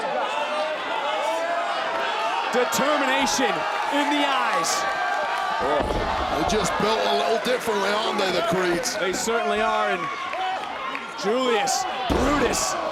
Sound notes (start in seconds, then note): 0.2 audience chattering; 4.8 audience cheering